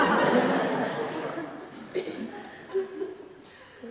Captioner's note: laughter